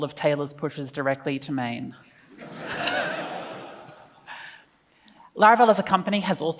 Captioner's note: laughs